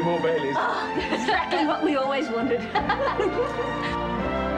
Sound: laughs; bright music

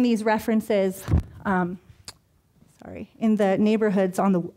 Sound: brushing mic

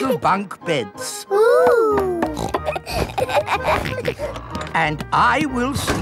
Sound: snorts, laughs

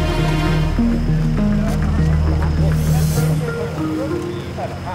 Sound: people chattering

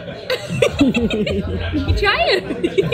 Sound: laughing

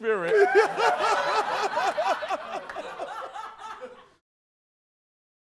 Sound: laughter

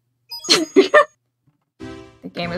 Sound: sporadic laughter

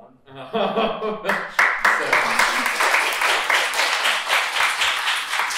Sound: laughs; applause

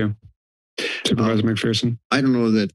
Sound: inhales

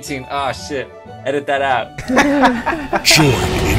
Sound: laughter

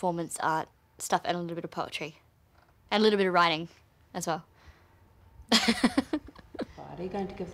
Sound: laughs

